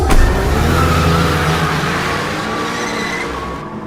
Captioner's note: engines rumbling